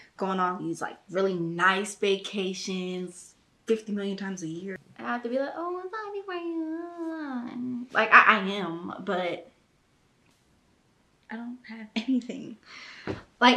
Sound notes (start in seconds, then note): 6.7 babbles